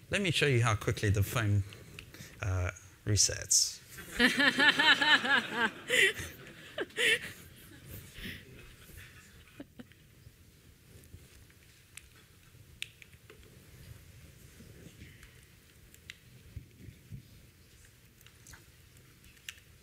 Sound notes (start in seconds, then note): 4.0 laughter